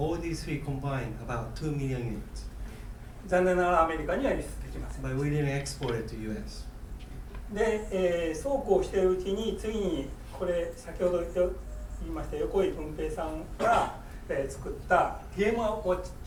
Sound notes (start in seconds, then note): 3.3 speaking in foreign language; 7.6 speaking in foreign language; 13.5 coughing